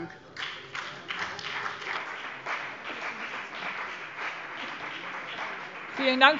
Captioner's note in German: Beifall BÜNDNIS 90/DIE GRÜNEN und CDU